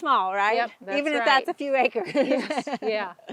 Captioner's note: laughing loudly